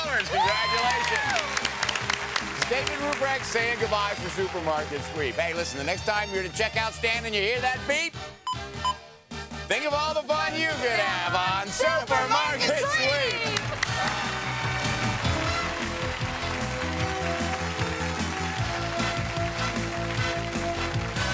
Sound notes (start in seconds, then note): 8.4 beeping; 12.4 applause